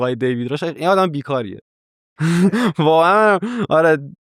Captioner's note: laughs